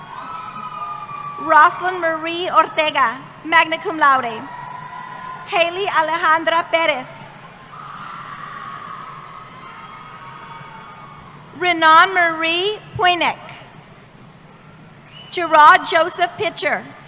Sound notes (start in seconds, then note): 6.6 cheering